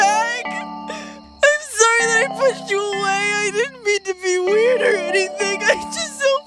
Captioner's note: sobbing